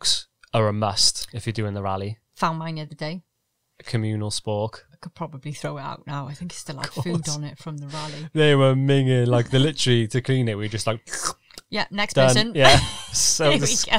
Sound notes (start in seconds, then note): 11.0 slurps